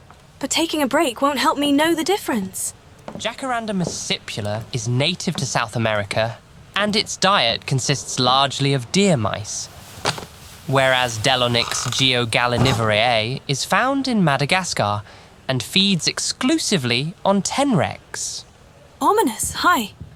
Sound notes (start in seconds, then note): 2.5 footsteps approaching; 9.2 sitting noises